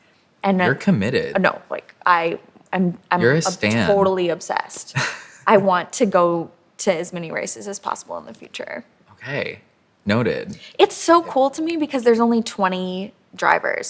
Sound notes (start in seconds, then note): 4.9 chuckles